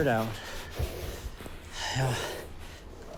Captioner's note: sighs